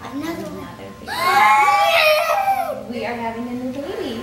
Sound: gasps

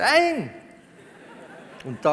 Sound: laughter from the audience

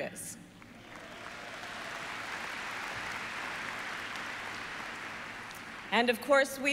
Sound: applause

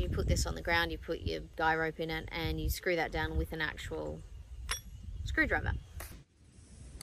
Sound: clunk noise

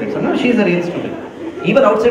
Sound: laugher

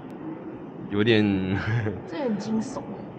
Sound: laughs

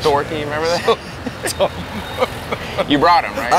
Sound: laughing

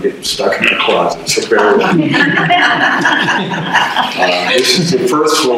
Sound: audience laughter

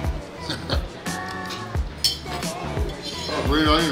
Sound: chuckling

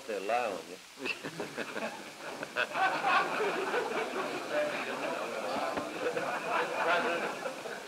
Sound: laughter

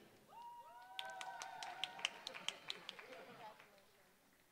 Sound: applause

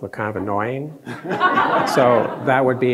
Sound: all laughing

